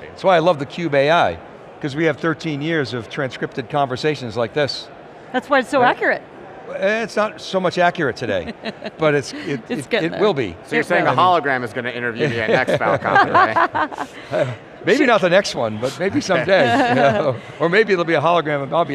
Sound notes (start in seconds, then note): 13.8 laughing